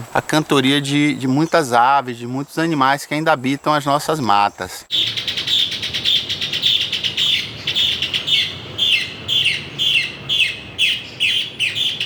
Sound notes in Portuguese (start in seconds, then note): 5.8 pássaros cantam